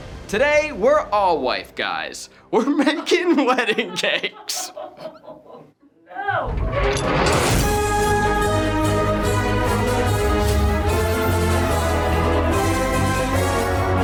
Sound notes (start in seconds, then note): 4.4 crew laughing; 7.4 upbeat exciting music